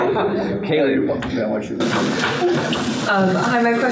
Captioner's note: laughter; chatter